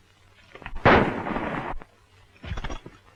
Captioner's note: gunshot